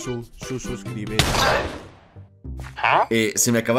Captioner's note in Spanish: Sonido de disparo